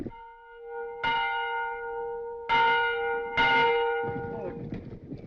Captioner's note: bell still ringing